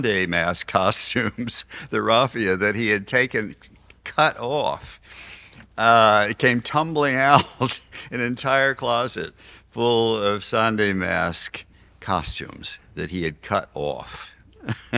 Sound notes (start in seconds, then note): 1.3 laughs